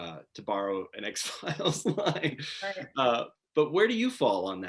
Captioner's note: laughing